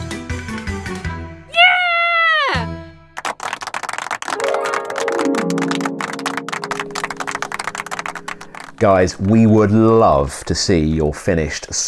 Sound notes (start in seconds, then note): 1.5 cheering; 3.1 applause; 4.3 harp strumming